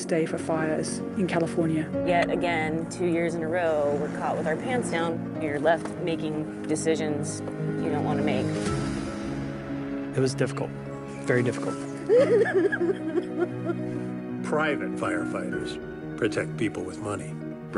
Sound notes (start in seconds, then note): 12.0 crying